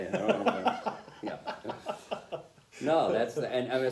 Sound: laughter

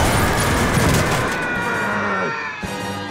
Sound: screaming

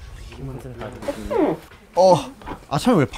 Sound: squeak

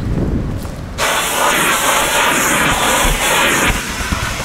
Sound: hoovering

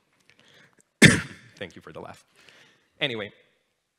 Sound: coughs

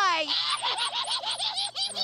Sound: laughing

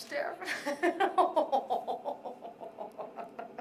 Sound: laughs

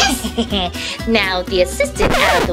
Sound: Romeo chuckling

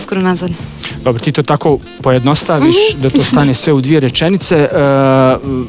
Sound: laughs

